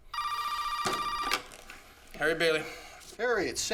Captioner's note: phone rings